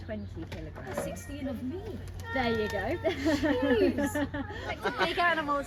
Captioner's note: laughs